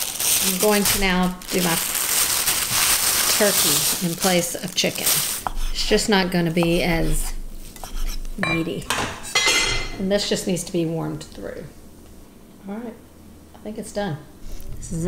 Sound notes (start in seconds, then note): 2.3 scratching; 9.1 clanking